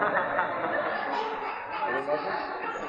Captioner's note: laughter